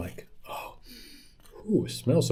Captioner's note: sniffs